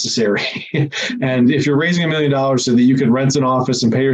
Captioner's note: laughs